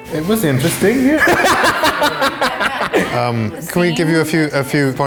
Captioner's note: laughing